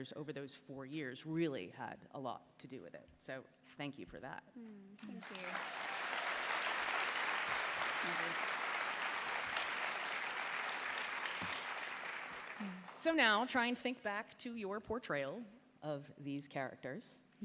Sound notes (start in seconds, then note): 8.4 applause